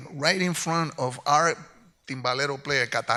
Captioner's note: speaks in Spanish